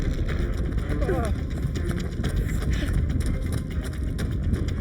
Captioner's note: Larry groans